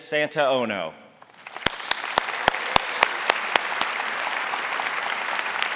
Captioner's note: audience applauding